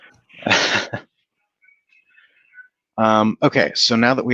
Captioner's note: chuckles